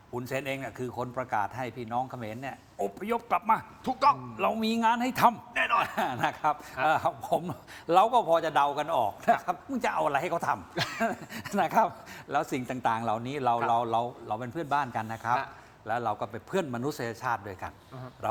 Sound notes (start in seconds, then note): 10.7 laughter